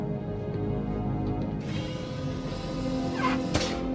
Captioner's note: vent noise